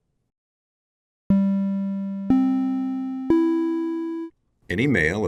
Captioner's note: audio Alert